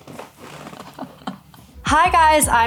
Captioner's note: Millie laughs